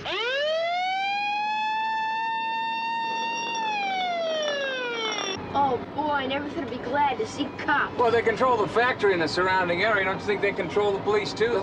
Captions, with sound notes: (Siren wails) (Hose end jangling) Oh, boy! I never thought I'd be glad to see cops! They control the area, don't you think they control the police, too?